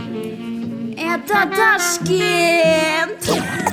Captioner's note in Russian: смех